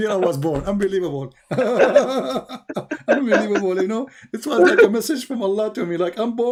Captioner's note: Ketawa